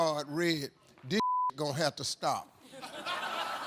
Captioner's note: beep; audience laughs